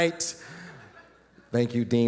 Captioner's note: audience laughing